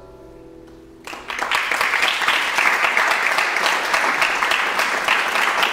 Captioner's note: audience clapping